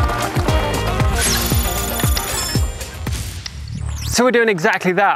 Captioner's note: logo bleeping